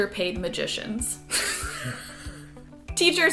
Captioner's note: laughter